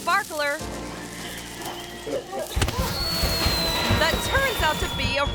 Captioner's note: firecracker hisses and pops